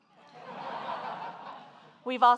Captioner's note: audience laughing